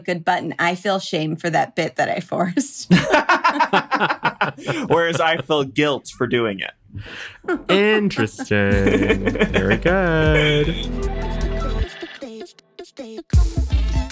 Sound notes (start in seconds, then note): 2.8 laughter; 7.1 john laughing